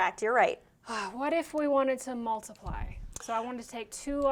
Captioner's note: sighs